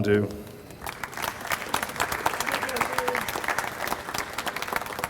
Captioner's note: audience applauds